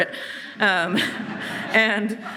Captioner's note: audience laughing